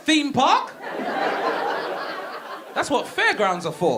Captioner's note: audience laughing